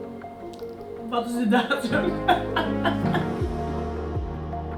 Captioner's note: laughs